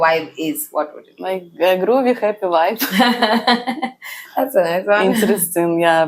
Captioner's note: laughs